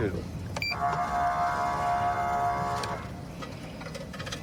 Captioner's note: horn blaring